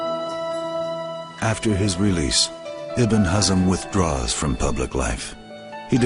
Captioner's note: none